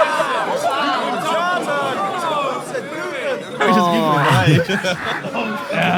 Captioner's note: audience laughing and murmuring